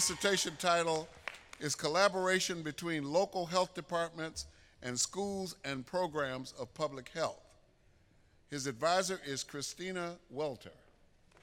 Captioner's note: applause